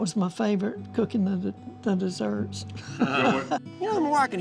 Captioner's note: laughs